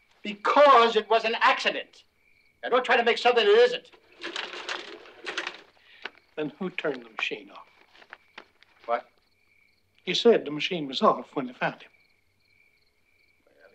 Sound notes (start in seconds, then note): none